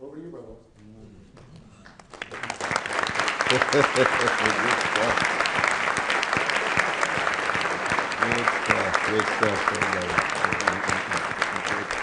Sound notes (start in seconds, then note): 1.8 applause; 3.4 laughing